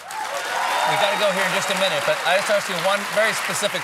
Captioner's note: cheers and applause